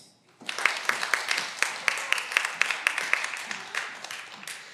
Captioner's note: cheering